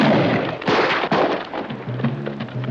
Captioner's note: gun cocking; gunshot; gunshots; suspenseful music